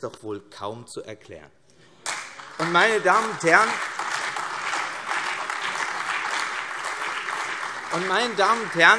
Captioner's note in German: Beifall CDU, BÜNDNIS 90/DIE GRÜNEN, vereinzelt SPD und AfD